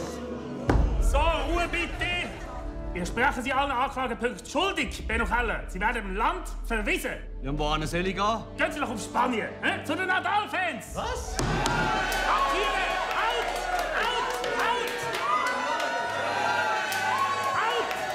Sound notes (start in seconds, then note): 13.6 cheers